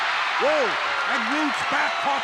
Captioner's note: applause